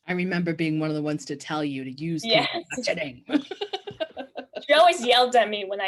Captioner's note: laughing